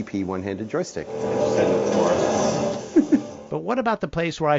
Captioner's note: car engine growling